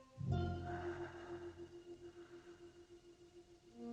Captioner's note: sighs